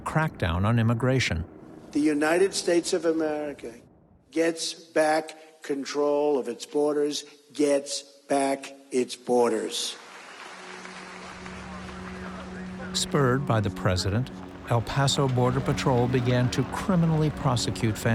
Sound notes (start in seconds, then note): 9.6 cheers and applause